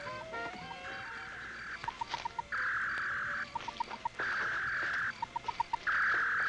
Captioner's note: whirring; beeping